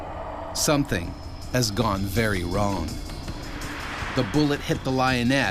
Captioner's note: voiceover